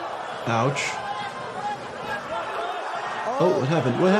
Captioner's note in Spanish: multitud charlando